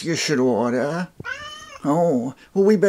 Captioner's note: cat noises